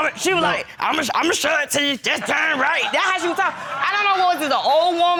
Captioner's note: deep voice